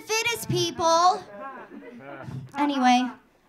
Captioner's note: audience laughing